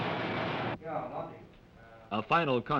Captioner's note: machines whir